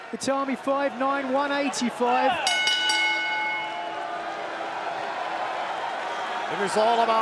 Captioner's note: bell ringing